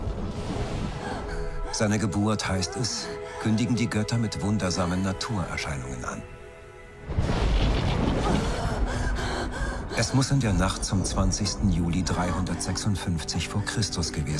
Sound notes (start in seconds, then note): 1.0 woman moaning